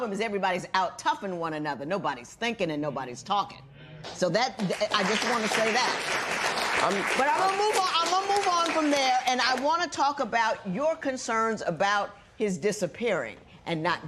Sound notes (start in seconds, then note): 4.6 applause